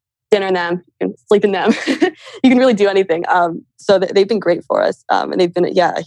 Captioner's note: laughs